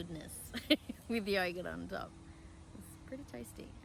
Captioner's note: giggles